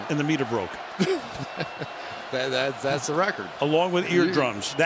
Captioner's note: laughs